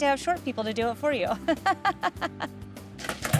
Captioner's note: laughs